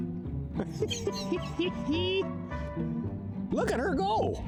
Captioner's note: laughing